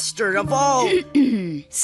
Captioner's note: clearing throat